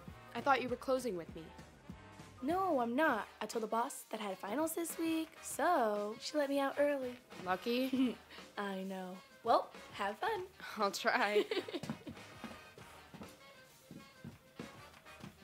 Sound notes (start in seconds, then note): 11.2 Laurie laughs